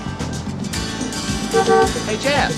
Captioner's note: honks horn